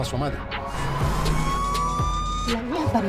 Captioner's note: siren wailing continues